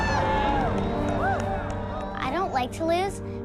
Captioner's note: applause